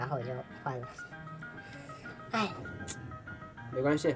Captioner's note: covering his head, sighing